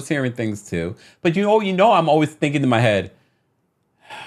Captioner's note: sighs